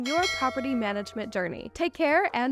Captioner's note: bell rings